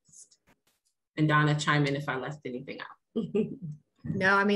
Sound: laughs

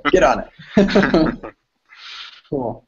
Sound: laughter

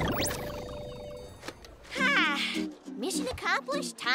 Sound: sighs

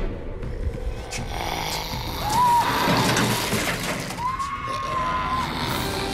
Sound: screams; zombies snarl

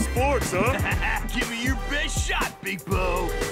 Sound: laughing

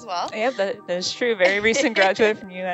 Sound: laughs

